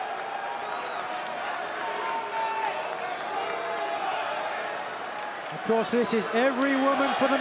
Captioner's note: crowd cheering